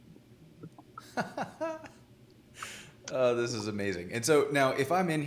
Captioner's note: laughing